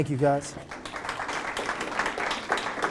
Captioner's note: applause